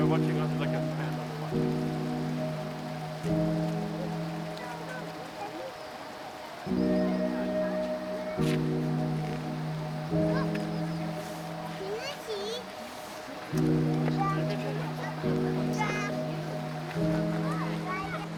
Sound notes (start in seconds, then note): 2.4 gentle music; 2.4 people chattering; 13.3 gentle music continues; 13.3 people chattering